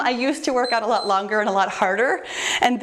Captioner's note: timer beeps